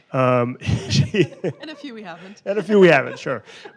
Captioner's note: laughs